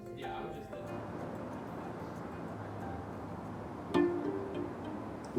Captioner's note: cars whirring